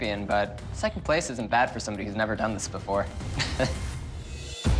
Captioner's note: chuckles